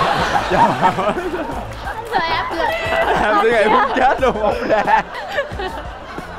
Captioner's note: laughing